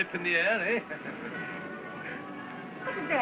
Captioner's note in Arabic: يضحك